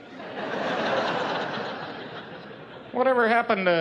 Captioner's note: laughing